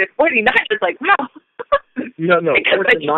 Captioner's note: chuckle